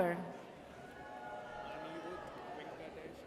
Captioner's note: audience cheers